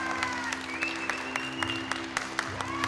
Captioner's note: applause